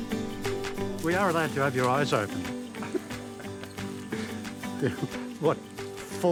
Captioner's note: laughs